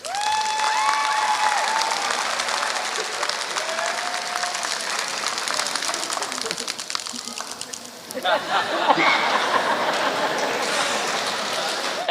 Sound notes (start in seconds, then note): 0.0 applause; 7.0 laughter